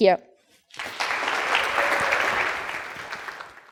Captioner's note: clapping